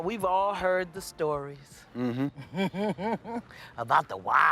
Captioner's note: laughs